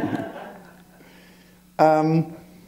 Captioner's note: laughter